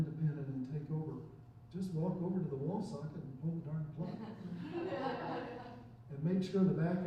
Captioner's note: chuckling